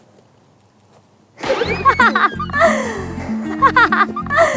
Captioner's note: burst out in laughter as soon as she opened it